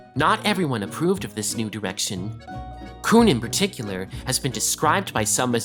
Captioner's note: none